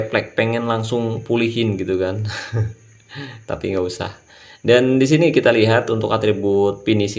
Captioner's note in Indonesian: tertawa